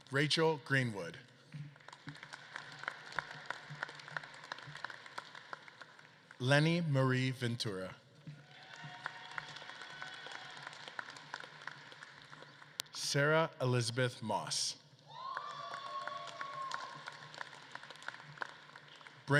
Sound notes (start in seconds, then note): 1.4 audience claps; 8.2 audience claps and cheers; 15.0 audience claps and cheers